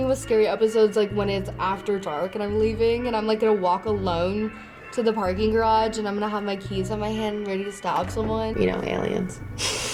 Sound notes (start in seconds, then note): 9.6 chuckles